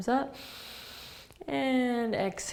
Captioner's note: inhaling